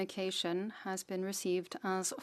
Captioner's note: speaking French